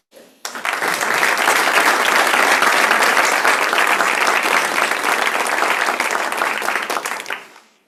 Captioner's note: applause